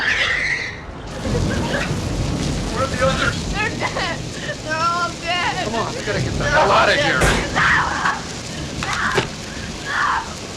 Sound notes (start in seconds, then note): 3.9 sobbing; 7.2 thud